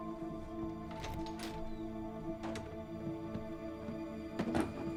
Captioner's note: door latch clicks